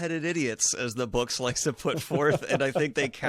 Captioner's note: laughing